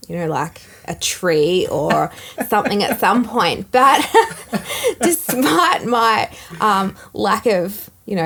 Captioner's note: laughing